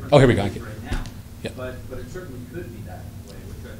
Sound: voiceover

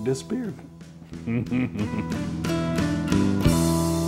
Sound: laughs

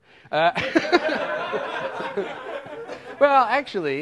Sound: laughter

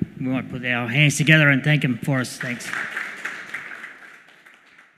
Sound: applause

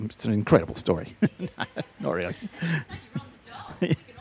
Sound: laughing

